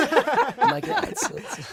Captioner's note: laughter